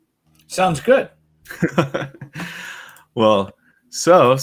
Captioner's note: laughs